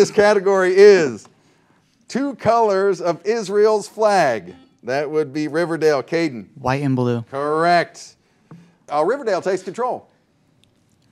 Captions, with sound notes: First question in this category is, two colors of Israel's flag. (buzzer dings) That would be Riverdale. Caden. - White and blue. - Correct. Riverdale takes control.